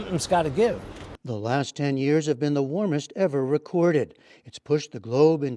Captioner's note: voice-over